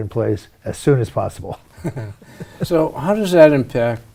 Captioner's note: laughs